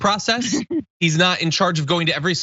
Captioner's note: laugh